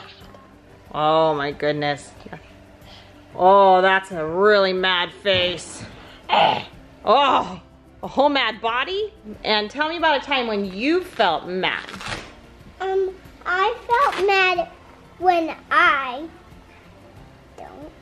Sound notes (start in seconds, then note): 6.4 angry growling sound